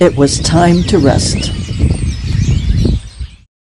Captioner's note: birds roosting